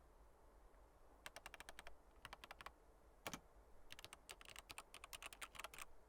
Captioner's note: computer keys clicking